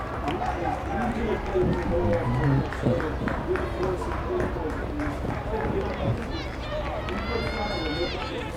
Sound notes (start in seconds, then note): 1.8 fans yelling and clapping